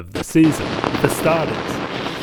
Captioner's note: static Glitching